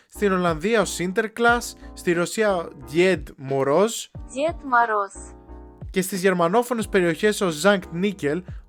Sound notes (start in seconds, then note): 3.1 with a lousy accent